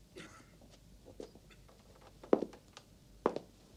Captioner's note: cough